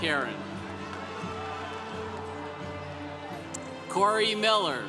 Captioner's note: congregation cheering